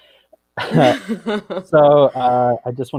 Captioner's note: laughs